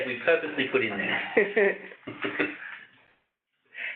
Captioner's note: chuckle